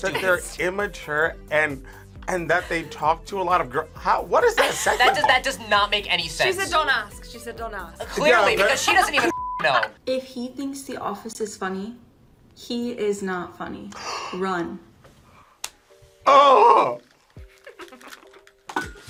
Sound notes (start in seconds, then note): 14.0 gasps; 17.5 React laughs